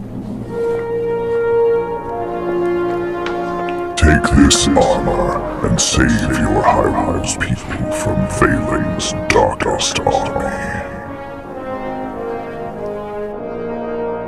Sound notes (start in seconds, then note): 4.6 voice echoed